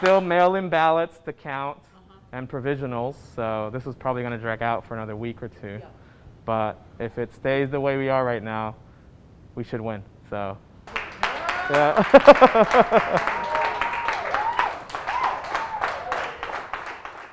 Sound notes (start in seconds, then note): 12.5 all clapping, laughs; 14.2 all cheering